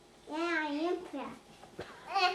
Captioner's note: baby mumbling